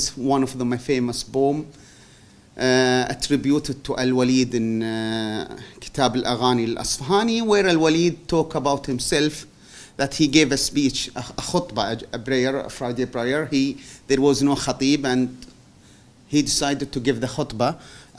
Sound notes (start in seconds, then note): 5.6 non-english